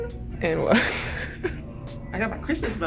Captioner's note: laughs